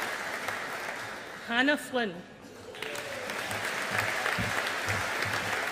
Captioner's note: audience applauding